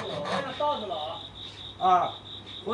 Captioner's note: background speaking